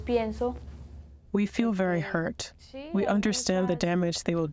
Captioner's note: through translator